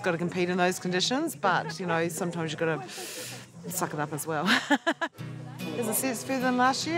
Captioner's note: inhales deeply; laughs